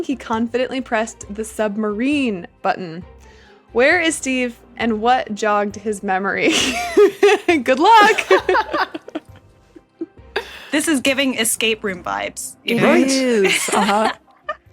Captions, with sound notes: he confidently pressed the submarine button. Where is Steve, and what jogged his memory? (laughs) Good luck! This is giving escape room vibes. Right? It is, uh-huh.